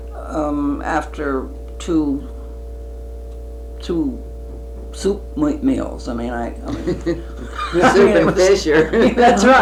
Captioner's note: laughter